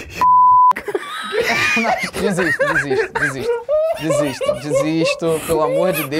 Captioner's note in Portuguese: risadas